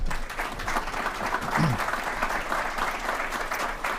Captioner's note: applause